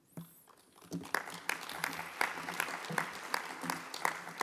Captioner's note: applause